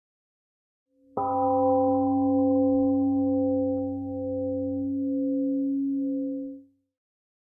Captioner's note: temple gong rings and fades